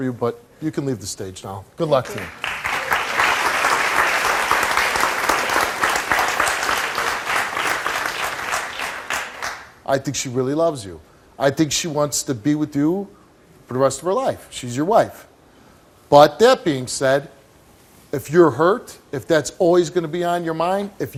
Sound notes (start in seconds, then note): 2.0 audience applauds